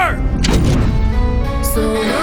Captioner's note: metal Clasping Shut